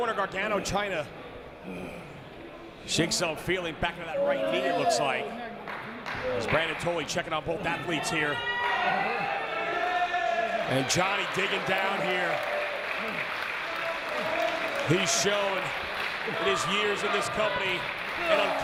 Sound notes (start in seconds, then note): 10.7 applause